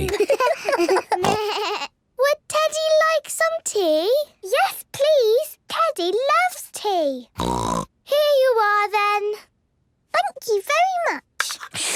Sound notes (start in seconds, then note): 0.0 giggles, snorts; 7.4 snort; 11.7 slurping